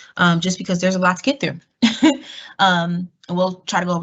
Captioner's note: laugh